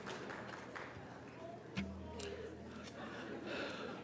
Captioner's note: light applause